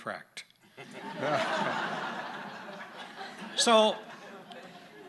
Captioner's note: audience laughing